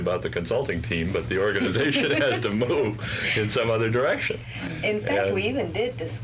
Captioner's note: laughter